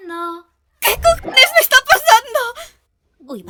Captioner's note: boing!